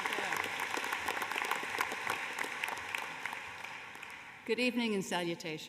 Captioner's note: applause